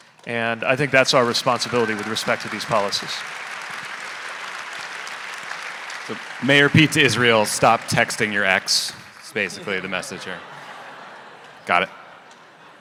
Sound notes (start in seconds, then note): 3.3 audience applauding; 9.3 audience laughing